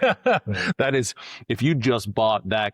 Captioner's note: laughing